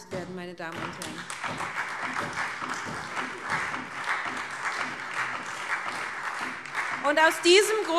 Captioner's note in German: Beifall SPD und Freie Demokraten